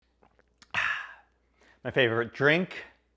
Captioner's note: swallowing sound